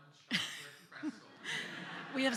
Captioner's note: laughter